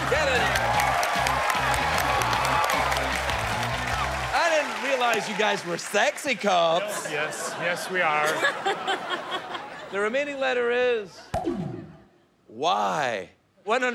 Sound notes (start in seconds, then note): 0.0 cheers and applause; 8.7 laughter